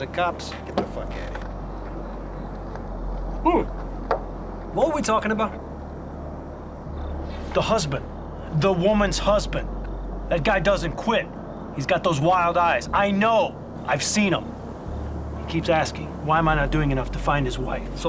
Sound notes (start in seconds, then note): none